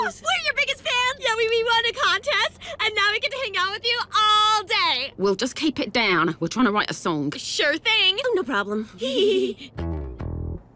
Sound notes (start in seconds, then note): 5.0 British accent; 9.0 both giggle